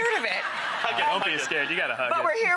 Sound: audience laughs

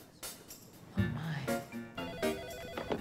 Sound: telephone ringing

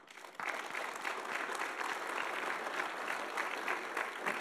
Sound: audience applauding

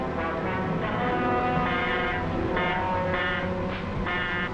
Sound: buzzing

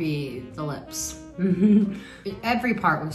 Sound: chuckles

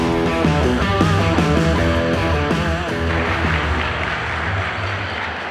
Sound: audience applauding

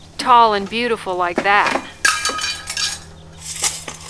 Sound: tools clanking

